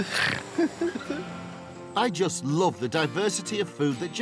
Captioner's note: Dave snorts